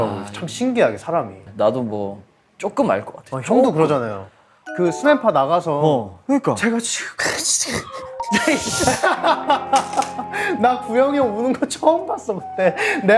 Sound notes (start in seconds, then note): 7.1 crying